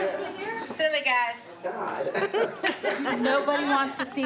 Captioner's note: laughs